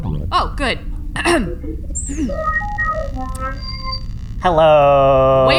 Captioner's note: clears throat; transmission connects